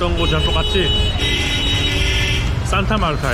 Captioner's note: horn honking